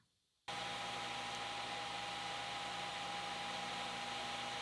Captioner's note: lathe whirring